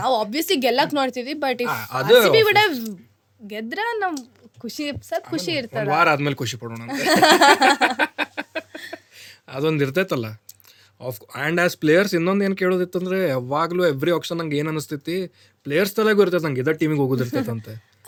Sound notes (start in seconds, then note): 6.9 both laughs